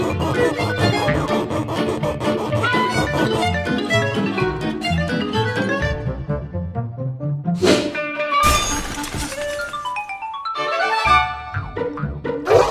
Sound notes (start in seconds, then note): 0.1 sawing sound; 2.6 lively music; 8.4 smash sound; 9.8 lively music